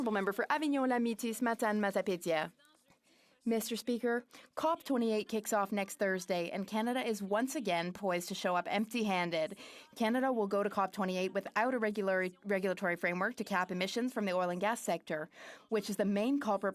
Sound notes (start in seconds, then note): 8.3 speaking French